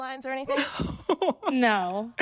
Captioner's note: laughter